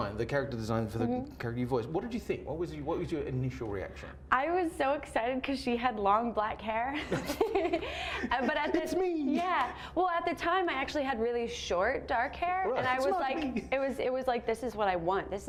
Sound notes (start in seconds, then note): 7.1 laughs